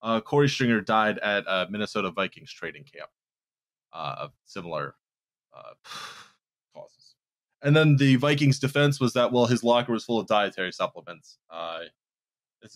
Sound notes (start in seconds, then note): 5.8 breathes out audibly